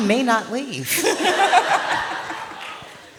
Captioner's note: laughs